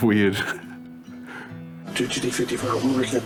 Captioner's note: laughs